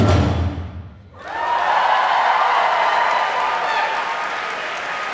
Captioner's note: applause